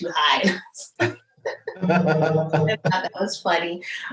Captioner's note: both laugh